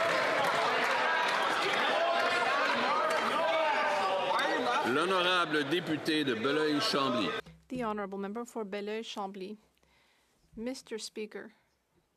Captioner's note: some applause